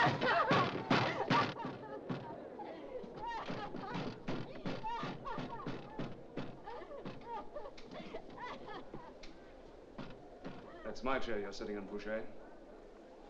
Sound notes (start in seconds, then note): 0.1 beating on door; 3.1 crying & beating on door